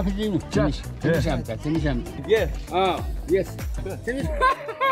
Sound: speaking in foreign language; men laughing

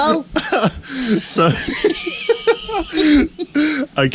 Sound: laughing

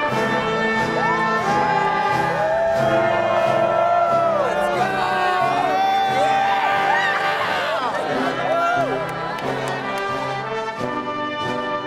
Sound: applause

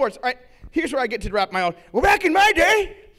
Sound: imitating elderly

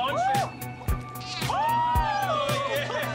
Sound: Mavi meows; cheering; laughing

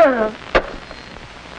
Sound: slams down phone

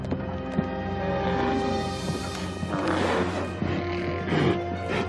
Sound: growling

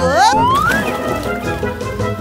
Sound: splash

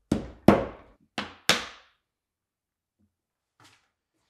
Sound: hammer taps

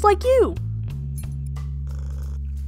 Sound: collar jingles

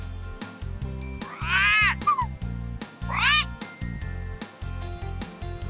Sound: sound of a parrot

